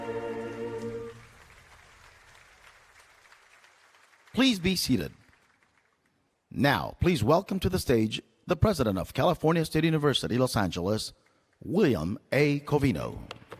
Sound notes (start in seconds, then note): 1.6 applause